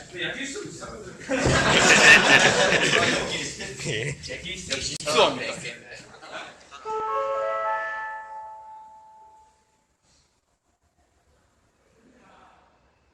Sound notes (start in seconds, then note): 6.9 signal Sound